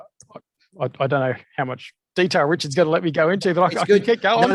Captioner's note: laughs